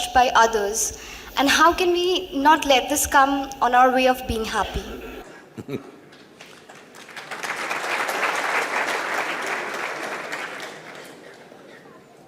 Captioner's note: Sadhguru laughs; applause